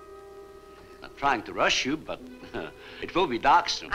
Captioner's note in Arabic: يضحك